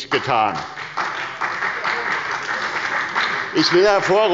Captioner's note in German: Beifall bei der SPD